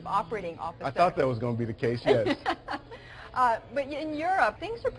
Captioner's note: laughter